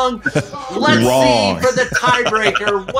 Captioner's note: laughing